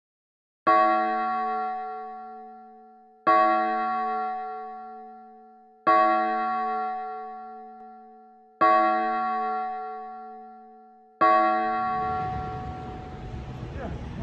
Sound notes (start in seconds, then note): 0.7 A bell tolling five times